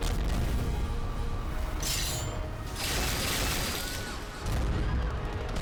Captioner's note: machine-gun fire